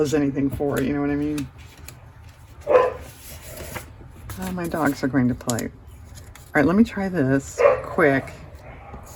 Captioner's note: dogs bark